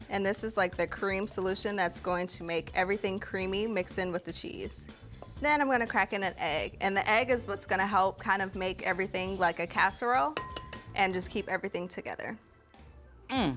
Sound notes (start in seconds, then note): 10.4 eggshell tapping